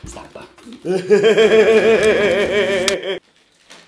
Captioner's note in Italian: risata